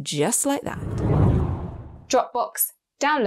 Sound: air whooshes

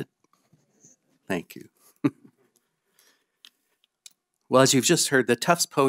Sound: chuckling

